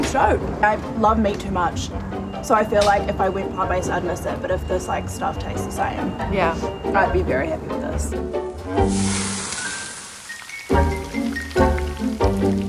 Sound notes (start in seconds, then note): 8.6 oil sizzling; 10.4 playful music continues